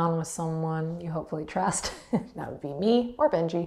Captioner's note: chuckles